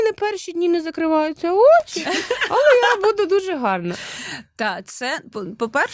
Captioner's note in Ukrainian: сміх